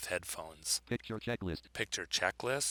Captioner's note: synthesized speech